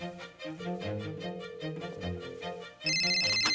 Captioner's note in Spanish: Sonido al marcar